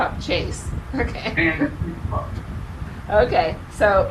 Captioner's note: laughs